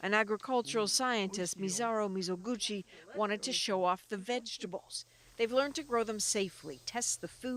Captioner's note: speaking Foreign Language